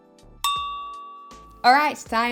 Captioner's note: timer dinging